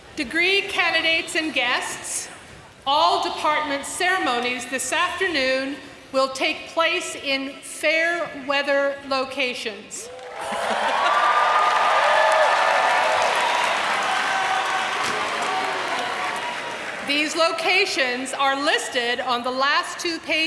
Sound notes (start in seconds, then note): 10.0 applause